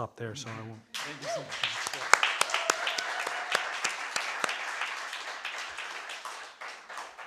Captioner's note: audience applauding